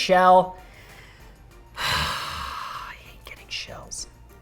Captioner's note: sighing